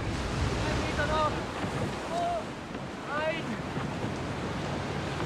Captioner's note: sailors shouting